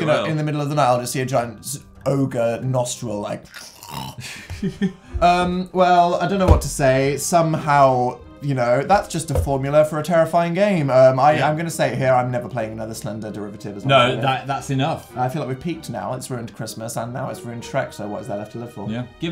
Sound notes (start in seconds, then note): 4.2 Phil's giggling